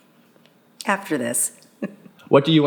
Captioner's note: laughs